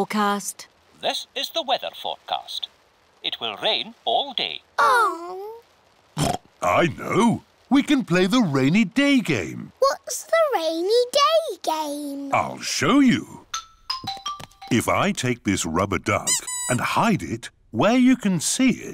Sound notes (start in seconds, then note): 6.2 oinks